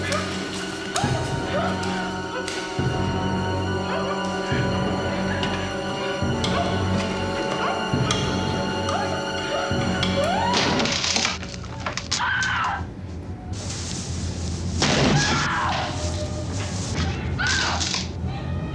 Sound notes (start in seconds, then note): 0.6 dog Barking; 0.8 screaming; 1.1 engine Revving; 3.3 grunting; 4.7 suspenseful Music; 7.2 screaming